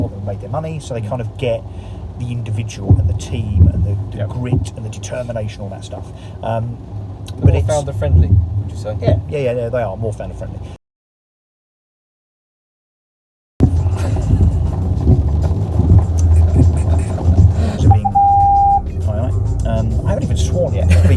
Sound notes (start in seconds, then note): 14.2 upbeat pop music; 17.8 loud tone